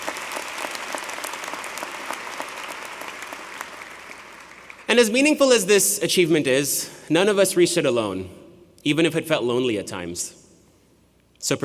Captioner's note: applause